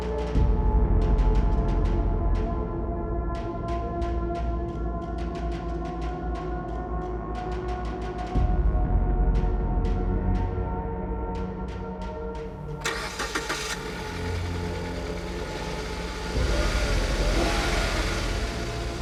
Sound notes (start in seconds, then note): 0.2 chilling music continuing; 12.8 engine starting; 16.0 engine revving